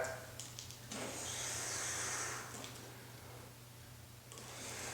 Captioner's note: gentle airy breath